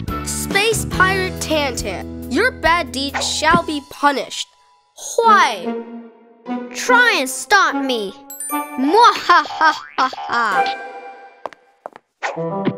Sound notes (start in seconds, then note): 9.1 Tantan laughs evilly